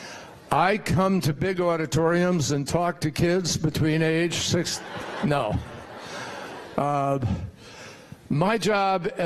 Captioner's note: laughter